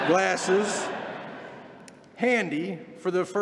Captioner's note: laughter